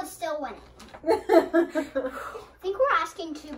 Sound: laughs

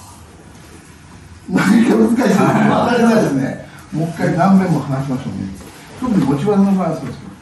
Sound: laughs

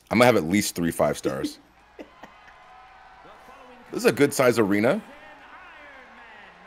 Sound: laugh

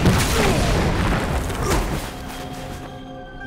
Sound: grunting

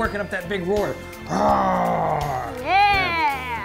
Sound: roaring

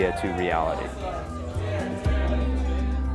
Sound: cheering

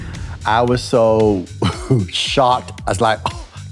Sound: chuckles

